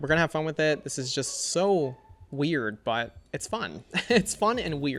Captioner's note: laughs